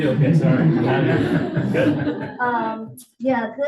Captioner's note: audience laughing